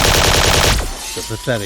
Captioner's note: more gunfire